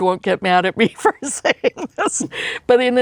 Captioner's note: laughs